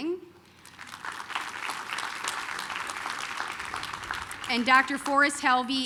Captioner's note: applause